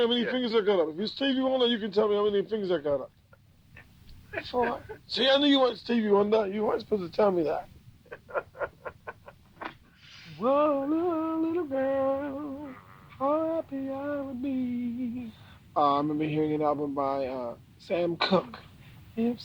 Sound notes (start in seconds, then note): 8.0 laughing